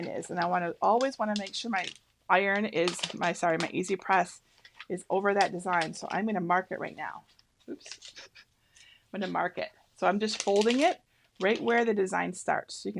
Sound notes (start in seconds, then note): 8.0 laughs